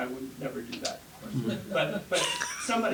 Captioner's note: laugh